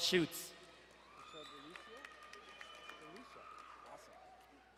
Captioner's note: crowd cheering